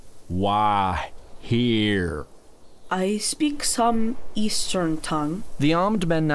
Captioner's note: accented